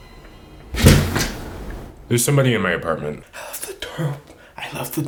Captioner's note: crash